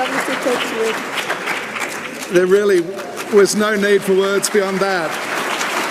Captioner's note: cheering and applause